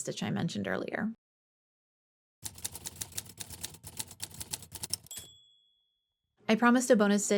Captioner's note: typing sounds